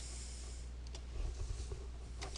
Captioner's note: mouse clicks